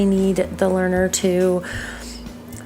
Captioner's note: breath in through nose